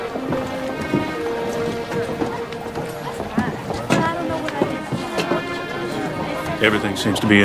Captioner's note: chattering